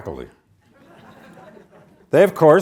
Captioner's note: audience laughs